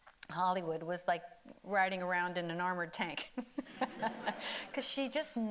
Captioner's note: laughs